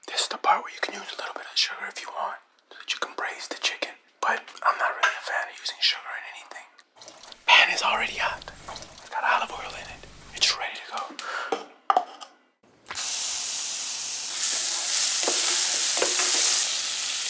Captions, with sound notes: This is the part where you can use a little bit of sugar if you want, so that you can braise the chicken. But I'm not really a fan of using sugar in anything. (pan sizzles softly) Pan is already hot. It's got olive oil in it. It's ready to go. (inhales sharply) (pan sizzles)